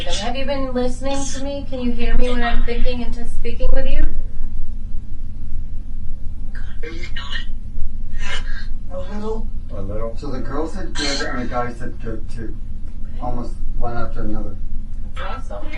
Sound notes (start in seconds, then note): 8.1 EVP warbles